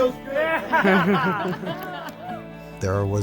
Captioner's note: people laughing